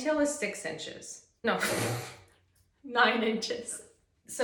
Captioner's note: pfffft